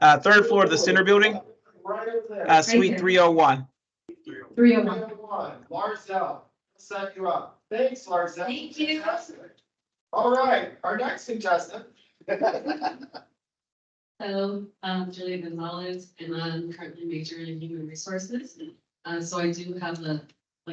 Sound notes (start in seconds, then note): 12.3 laughs